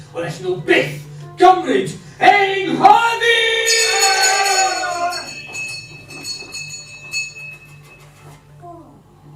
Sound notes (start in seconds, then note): 5.5 bell ringing